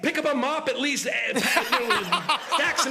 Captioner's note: laughter